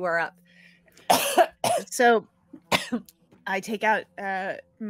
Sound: coughing

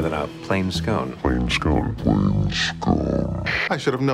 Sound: walkie talkie static

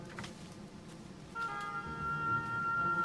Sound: footsteps

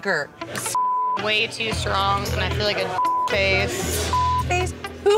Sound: beep

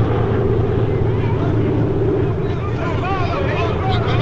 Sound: shouting

